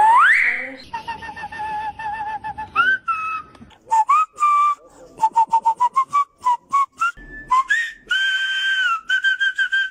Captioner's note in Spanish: Silbidos finales